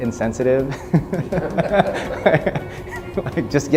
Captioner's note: laughing